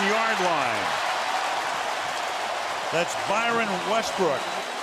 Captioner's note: cheering